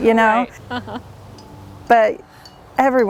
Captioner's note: laughs loudly